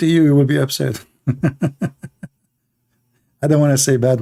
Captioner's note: Ketawa